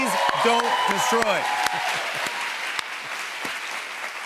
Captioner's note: cheers and applause